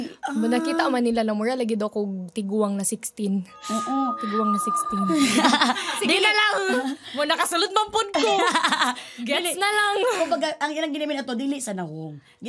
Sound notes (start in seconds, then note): 5.1 laughter; 8.2 laughs